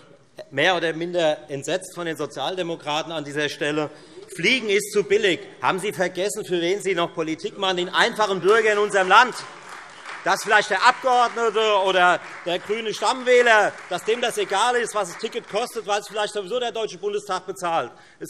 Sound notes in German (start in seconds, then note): 9.6 Beifall Freie Demokraten und vereinzelt AfD